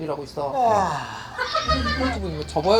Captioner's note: yawn